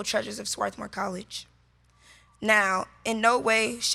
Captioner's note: none